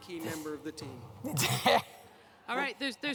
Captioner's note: laughter